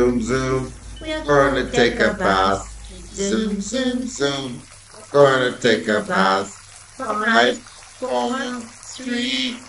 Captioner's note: water running from shower